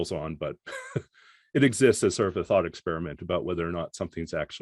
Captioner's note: chuckles